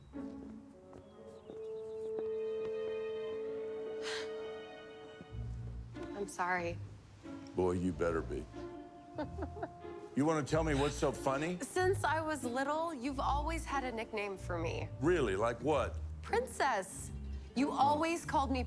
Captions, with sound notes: [sighs] I'm sorry. - Boy, you better be. - [laughs] You want to tell me what's so funny? Since I was little, you've always had a nickname for me. - Really? Like what? - Princess! You always called me Princess.